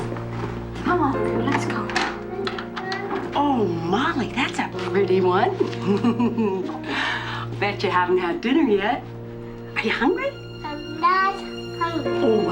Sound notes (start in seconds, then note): 5.7 laughing